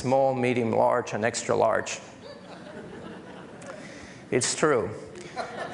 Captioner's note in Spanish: Risas